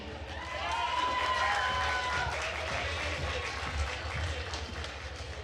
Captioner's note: attendees cheering and applauding